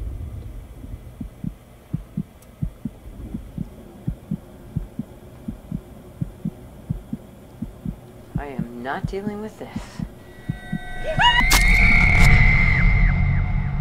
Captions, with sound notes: (heart beating) I am not dealing with this. (screaming)